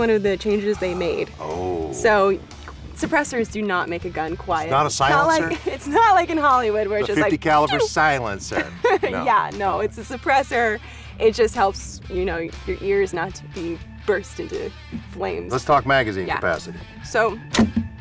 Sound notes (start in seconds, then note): 8.6 mimic tiny shot sound